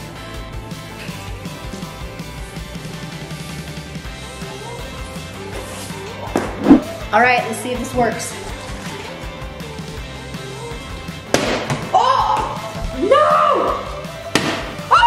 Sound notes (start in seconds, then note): 0.2 upbeat music; 9.0 upbeat music; 11.7 groans; 14.3 bottle thuds